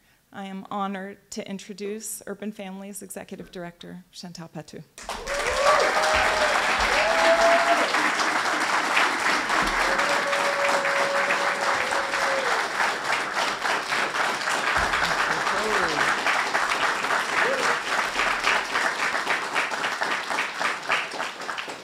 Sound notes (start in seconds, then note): 5.4 cheers and applause